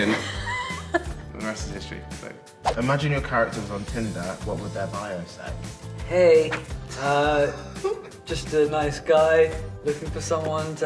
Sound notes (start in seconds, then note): 0.0 laughs; 7.8 laughs